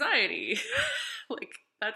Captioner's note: laughing